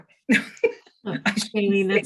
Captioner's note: laughing